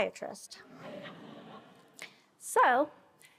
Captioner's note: attendees laughing